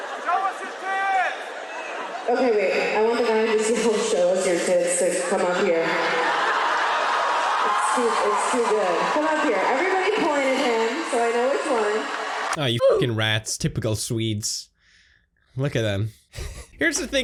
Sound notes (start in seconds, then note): 6.0 uproarious cheering and applause; 16.3 wheezing laugh